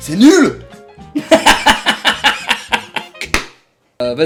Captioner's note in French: rire de beauf